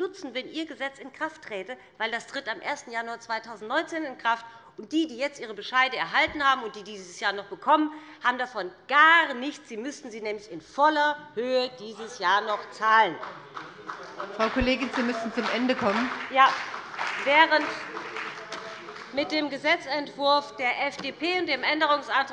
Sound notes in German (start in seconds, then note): 13.0 Beifall bei dem BÜNDNIS 90/DIE GRÜNEN und der CDU